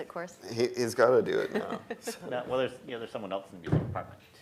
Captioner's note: laugh